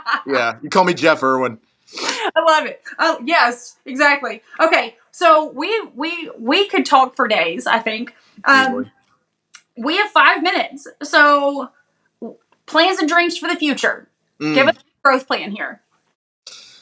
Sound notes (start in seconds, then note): 2.3 laugh